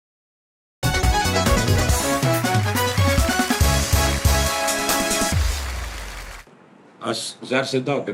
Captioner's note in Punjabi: ਤਾੜੀਆਂ